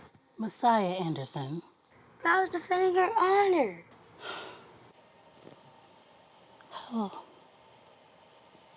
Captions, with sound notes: Messiah Anderson? I was defending her honor. [SIGHS] Oh.